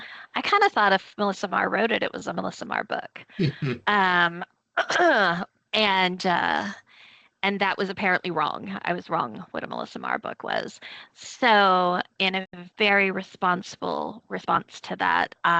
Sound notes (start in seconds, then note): 3.4 chuckling; 3.4 clearing throat